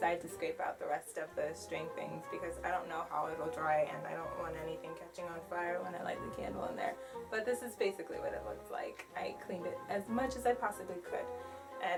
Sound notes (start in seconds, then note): none